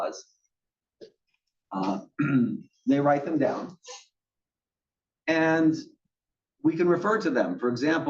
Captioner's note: cough